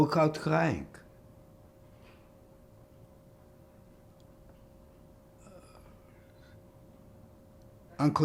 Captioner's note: pauses 6 seconds